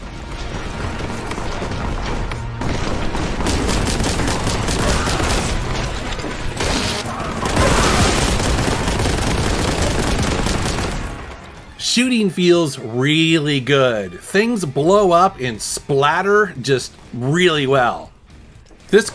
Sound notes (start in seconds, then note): 0.0 dramatic rock music; 3.1 gun blasting